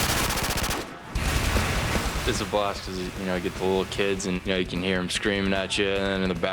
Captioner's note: gunfire